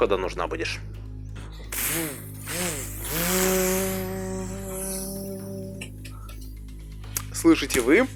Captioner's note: chainsaw noises